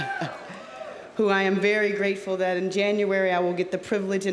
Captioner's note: laughs; audience cheering